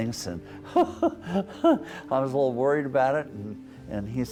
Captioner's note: chuckles